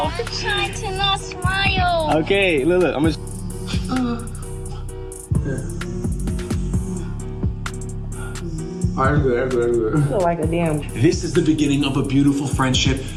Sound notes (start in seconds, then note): 2.8 mouthing buzzing sound; 3.0 painful moan